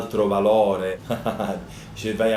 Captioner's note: laughs